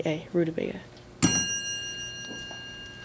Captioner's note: ding